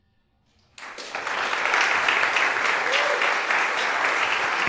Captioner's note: applause